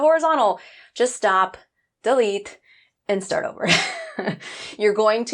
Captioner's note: laughs